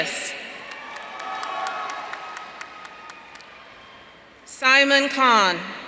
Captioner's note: audience cheering